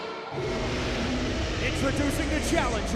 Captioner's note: air rumbles